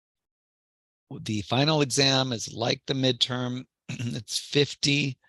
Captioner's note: cough